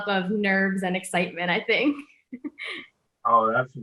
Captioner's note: laughing